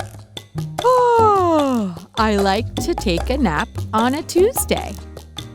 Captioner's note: yawns